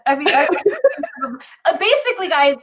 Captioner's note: laughing